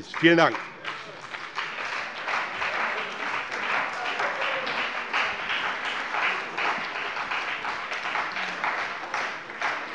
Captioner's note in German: Beifall bei dem BÜNDNIS 90/DIE GRÜNEN und der CDU